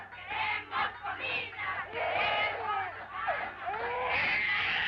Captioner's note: baby wailing